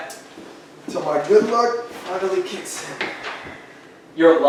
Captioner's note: relaxed sigh